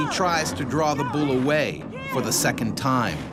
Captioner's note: voiceover